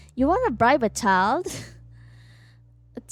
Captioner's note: laughs